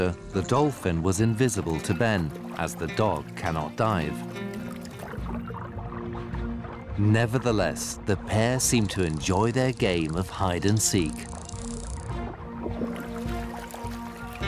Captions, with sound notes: the dolphin was invisible to Ben, as the dog cannot dive. Nevertheless, the pair seemed to enjoy their game of hide and seek. [clicks]